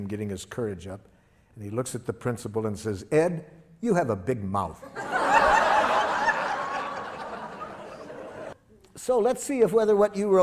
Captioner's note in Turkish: Gülüşmeler